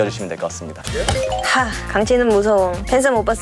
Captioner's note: sigh